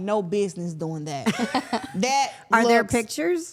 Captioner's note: interviewers laughing